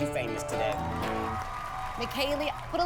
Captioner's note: cheering